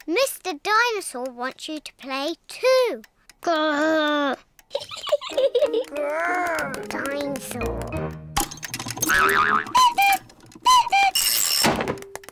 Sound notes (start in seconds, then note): 4.7 laughs; 8.4 clock cuckoos